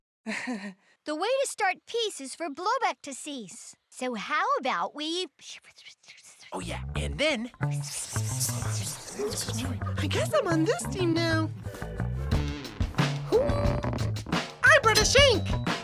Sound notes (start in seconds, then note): 0.0 laughs nervously; 4.5 whispering; 11.6 hip hop music